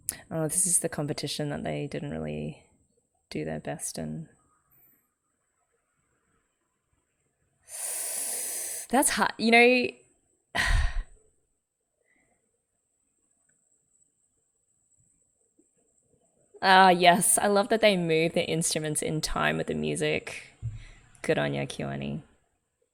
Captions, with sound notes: Oh this is the competition that they didn't really do their best in. [sharp inhale] That's hard. You know - [sighs] Ah yes, I love that they move the instruments in time with the music. Good on you, KyoAni.